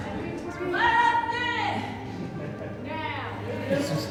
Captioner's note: chatter